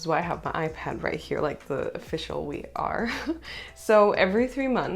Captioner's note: laughter